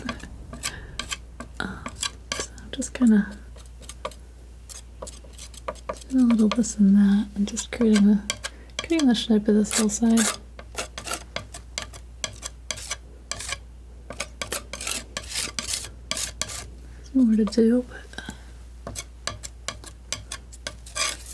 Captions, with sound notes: So I'm just gonna do a little this and that and just creating a shape of this hillside. (scratching) I don't know what to do, but...